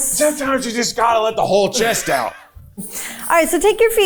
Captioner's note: chuckling